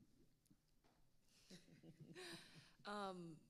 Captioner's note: panelists laughing